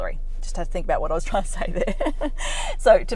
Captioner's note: laughs